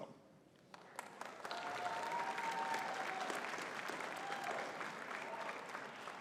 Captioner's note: audience cheering and clapping